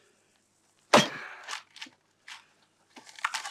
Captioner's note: thud